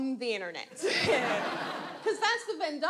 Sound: audience laughs

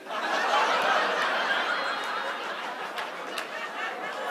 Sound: audience laughs

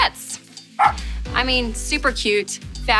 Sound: dog barking

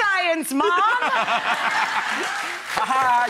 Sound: laughing

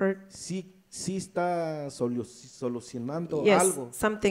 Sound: speaks in foreign language

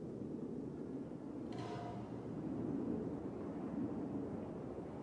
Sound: metal banging continues

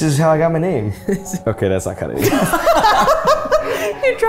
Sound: all laughing

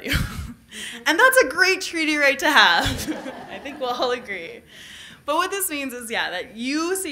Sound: laughter

